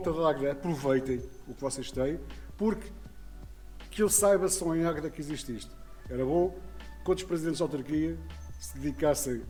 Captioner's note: in Portugual